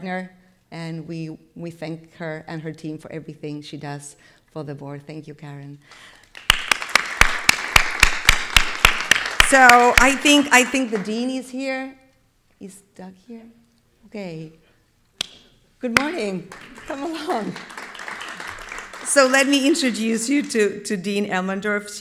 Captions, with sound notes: and we thank her and her team for everything she does for the board. Thank you, Karen. (everybody clapping) So, I think the dean is here. Is Doug here? Okay. Good morning. Come along. (attendees clapping) So, let me introduce you to Dean Elmendorf.